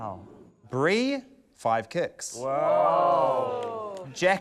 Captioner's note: exclaiming